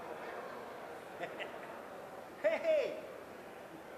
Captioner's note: chuckles